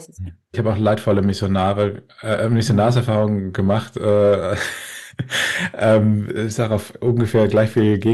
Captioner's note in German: gelächter